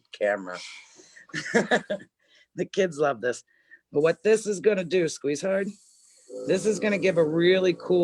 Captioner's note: laughs